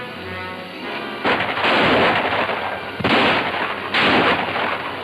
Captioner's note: guns roaring